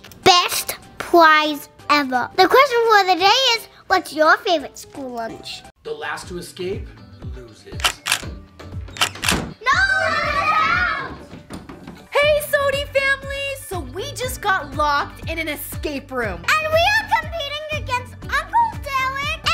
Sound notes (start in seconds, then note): 9.0 clicking sound effects